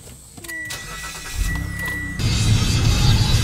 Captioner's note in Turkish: Araba motoru sesi